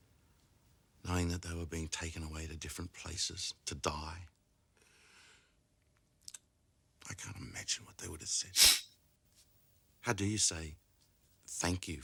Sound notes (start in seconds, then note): 8.6 sniffles